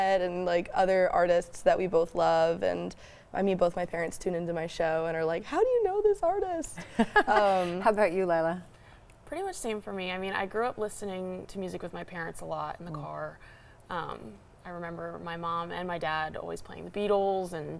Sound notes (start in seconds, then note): 6.8 laughs